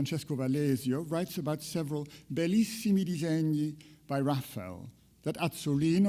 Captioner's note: speaks in foreign language